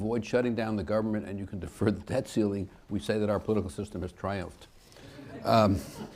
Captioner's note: laughter